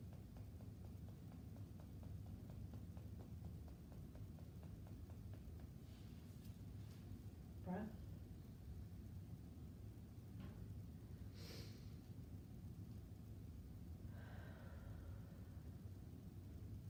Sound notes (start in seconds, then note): 11.8 breathing deeply